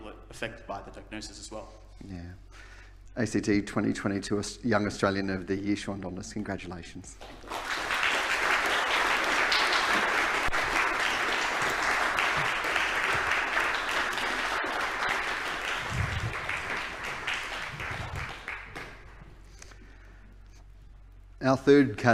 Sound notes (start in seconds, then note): 7.2 applause